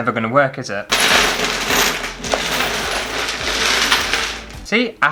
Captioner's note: mosaic Tiles Clashing